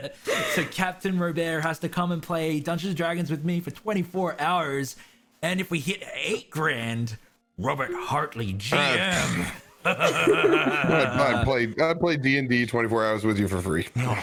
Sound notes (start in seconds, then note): 8.8 sighs; 9.8 evil laughter